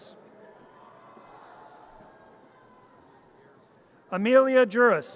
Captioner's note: audience cheers